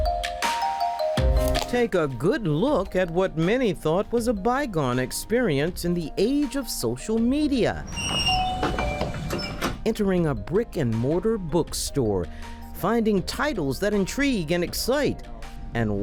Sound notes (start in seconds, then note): 7.6 door creaks; 8.2 doorbell dings